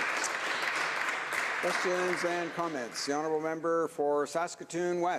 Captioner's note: some Applause